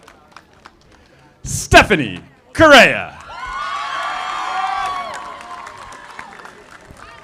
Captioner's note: audience applauding; audience applauding